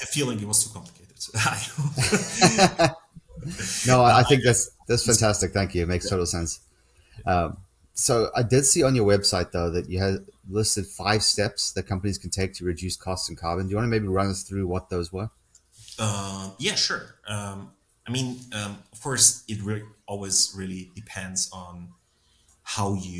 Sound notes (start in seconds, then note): 1.6 both laughing